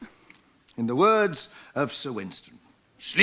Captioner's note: impersonates Churchill